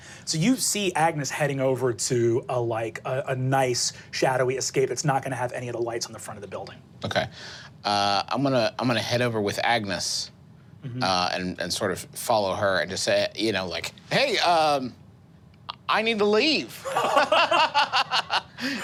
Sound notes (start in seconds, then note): 16.8 laughs